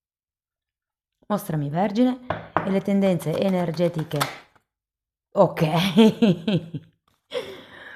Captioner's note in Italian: risate